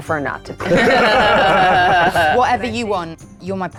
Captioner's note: players laughing